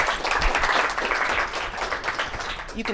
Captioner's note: applause